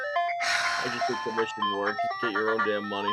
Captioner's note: exhausted sigh